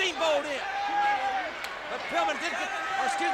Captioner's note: audience cheers